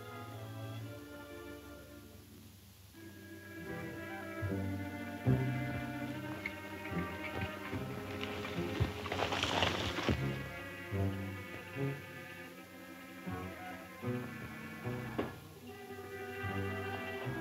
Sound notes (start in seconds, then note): 3.2 suspenseful music; 7.2 horse hoof beats